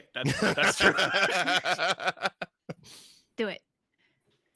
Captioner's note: laugh